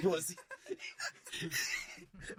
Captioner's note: laughing